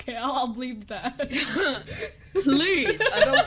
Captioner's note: laughs